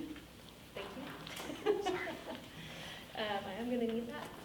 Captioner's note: laughing